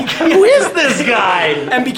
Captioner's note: laughing